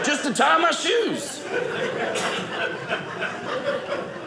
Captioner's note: audience laughing